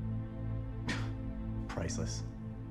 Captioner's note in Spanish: Se burla